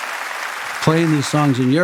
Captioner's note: crowd applauding